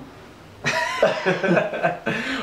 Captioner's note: laughing